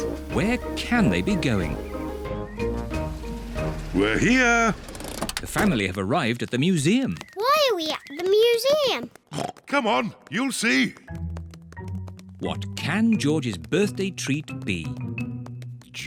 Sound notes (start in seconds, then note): 9.1 oinks